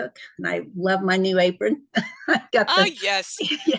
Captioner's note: laughs